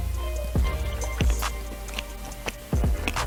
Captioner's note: chewing sounds; lipsmack